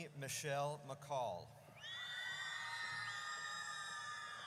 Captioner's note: audience cheers